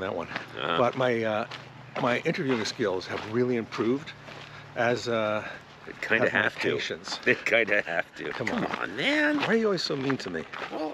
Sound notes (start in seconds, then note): 0.3 Conan grunts